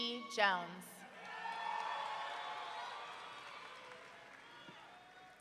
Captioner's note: audience cheering